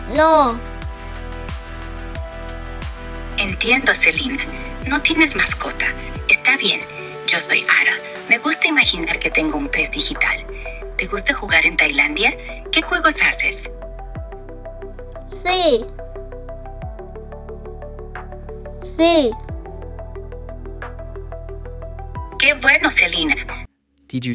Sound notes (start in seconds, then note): 4.0 speaking Spanish